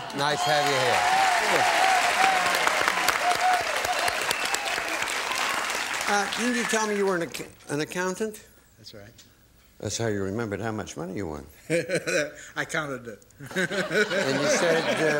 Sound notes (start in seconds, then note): 2.7 applause; 13.4 laughter